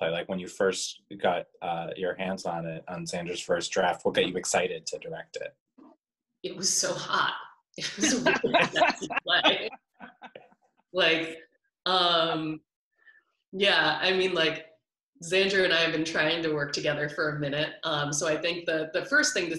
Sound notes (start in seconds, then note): 7.8 laughing